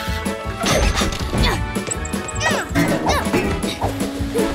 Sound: grunting

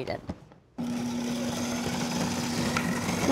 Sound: processor whirring

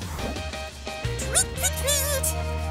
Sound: bird tweeting

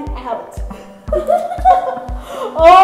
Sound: both giggling

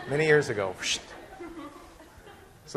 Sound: class laughing

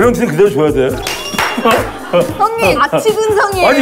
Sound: laughing

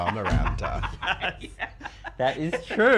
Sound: both laughing

